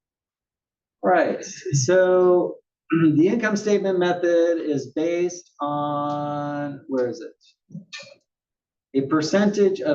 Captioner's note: cough